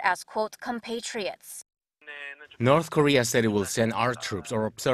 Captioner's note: Korean